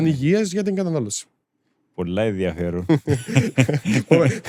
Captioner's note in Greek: γέλια